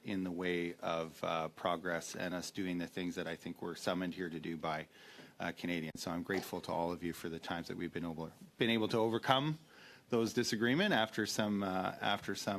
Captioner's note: speaking French